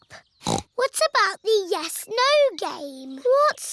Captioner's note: snorts